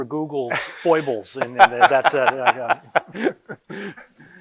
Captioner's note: laughing